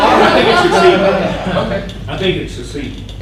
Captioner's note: audience laughing; voiceover